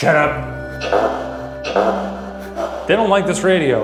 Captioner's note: laughing; spirit box chattering